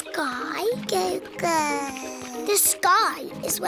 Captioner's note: babbles